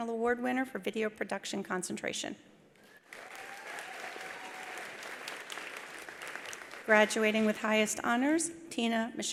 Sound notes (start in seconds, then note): 2.8 attendees applauding; 3.0 attendees cheering